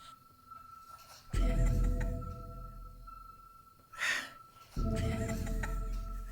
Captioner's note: police officers laughing